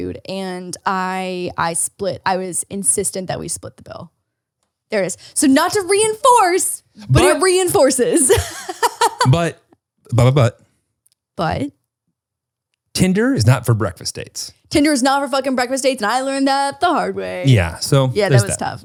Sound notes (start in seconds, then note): 7.8 laughs